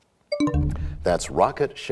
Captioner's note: bell chimes, time expires